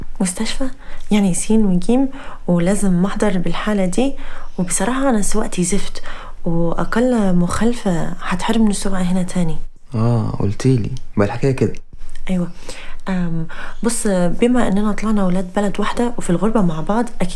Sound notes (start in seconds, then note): none